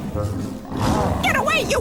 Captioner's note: roaring